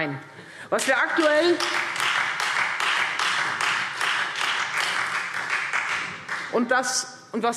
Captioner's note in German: Beifall Freie Demokraten